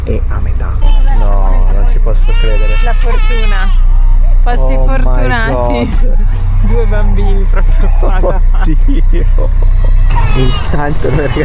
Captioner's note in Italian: risate